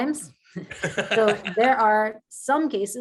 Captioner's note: men chuckling